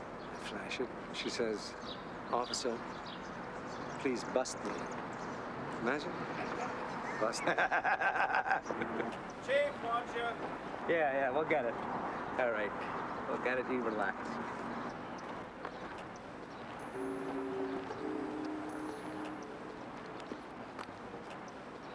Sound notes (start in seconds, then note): 7.7 laughing; 16.8 tense music